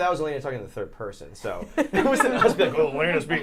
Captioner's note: laughs